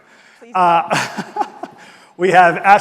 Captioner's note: laughing